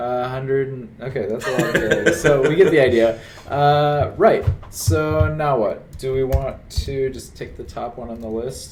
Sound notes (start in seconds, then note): 1.4 laughs